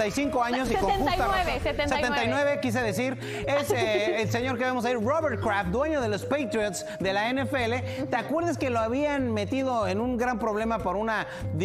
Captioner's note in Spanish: risas